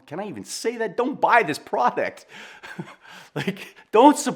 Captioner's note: chuckles